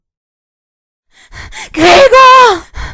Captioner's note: panting